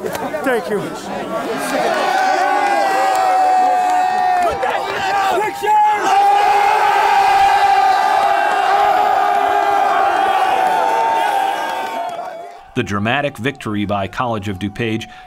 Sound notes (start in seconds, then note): 2.1 cheering